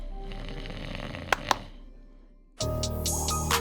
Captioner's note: snoring